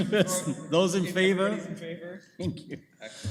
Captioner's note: laughs